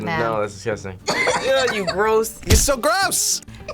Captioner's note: laughs